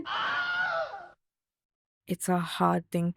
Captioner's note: goofy scream